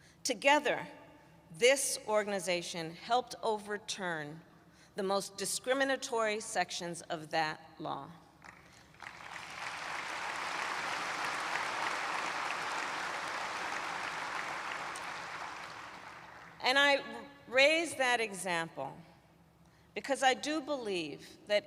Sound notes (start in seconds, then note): 8.4 applause